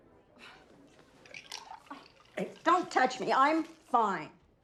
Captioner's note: none